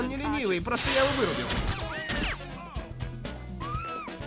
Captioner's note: gunshots